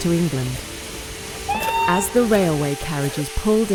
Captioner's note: sound of train whistle